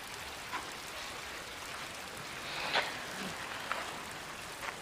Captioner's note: none